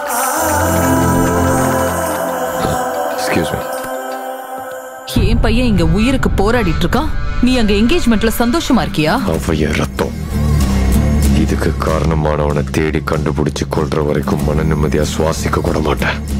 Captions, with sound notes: (Phone rings) Excuse me. How can you happily enjoy the engagement when my son is fighting for his life? He is my own blood! I won't rest until I kill the one who is responsible for this.